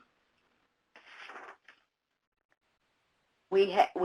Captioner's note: papers rustling